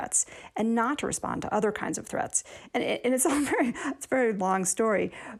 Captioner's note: laughter